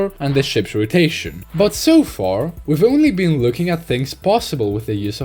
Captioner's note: brush sound effect or something lol